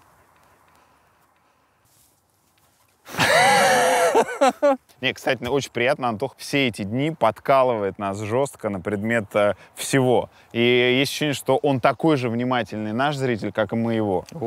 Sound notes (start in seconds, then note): 3.0 both laugh